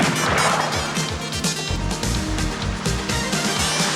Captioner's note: guns firing